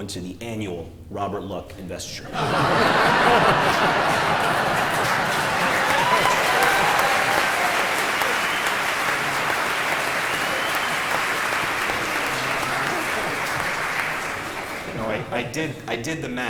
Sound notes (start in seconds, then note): 5.7 laughter; 6.3 applause